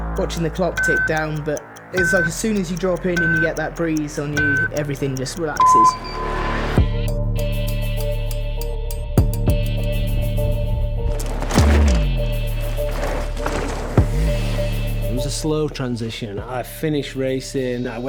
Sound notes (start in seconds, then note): 5.9 clock ticking; 7.6 dramatic music; 11.0 bike whooshing